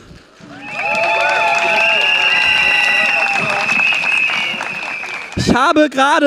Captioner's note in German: Jubel, Applaus und Trillerpfeifen